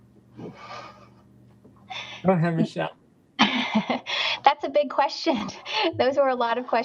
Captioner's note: laughs